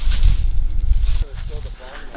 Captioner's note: rustling leaves